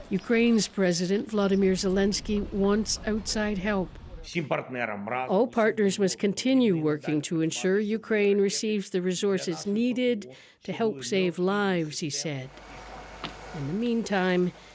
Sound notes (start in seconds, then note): 5.7 speaking alternate language